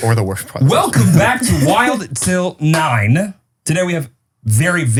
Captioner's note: hand slapping